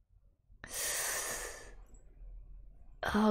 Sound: sharp inhale

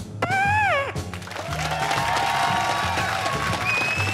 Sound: cheers and applause

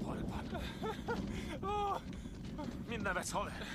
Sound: laughs

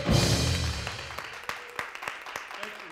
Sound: applause

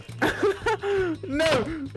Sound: laughing

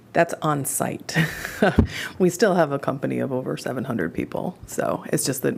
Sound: laughter

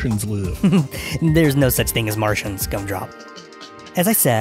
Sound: Bowzybub laughs

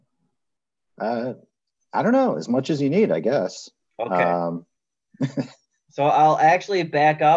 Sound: chuckles

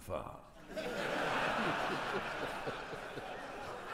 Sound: audience laughing

